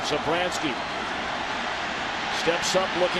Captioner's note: crowd cheering